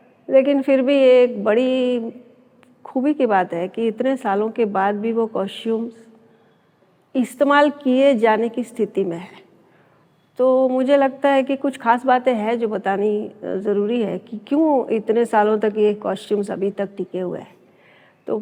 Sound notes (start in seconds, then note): none